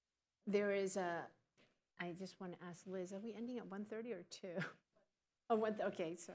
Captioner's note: laughs